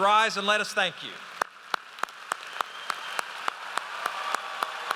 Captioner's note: audience applauds